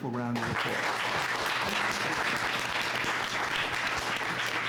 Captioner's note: applause